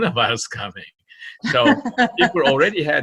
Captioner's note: laughing